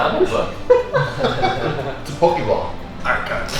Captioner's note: laughing